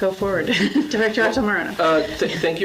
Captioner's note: laughs